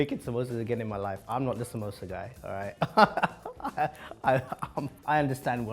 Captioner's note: laughs